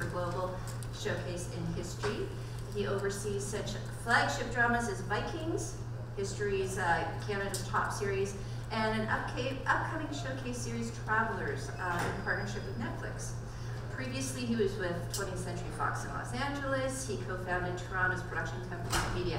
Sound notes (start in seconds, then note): none